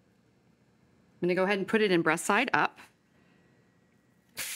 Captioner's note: sizzling